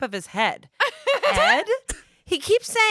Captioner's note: laughs